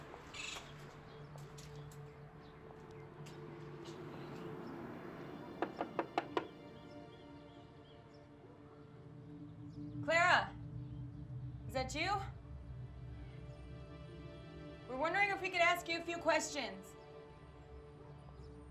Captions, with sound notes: (knocking on door) Clara? Is that you? (ominous electronic music) We're wondering if we could ask you a few questions?